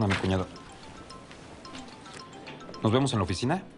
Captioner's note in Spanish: Suena el celular